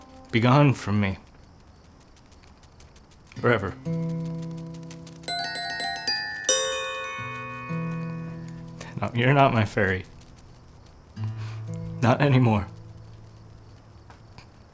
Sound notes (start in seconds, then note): 5.2 bells ringing